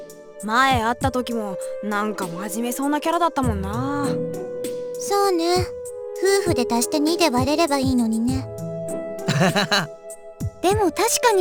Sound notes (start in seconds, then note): 9.2 awkward laugh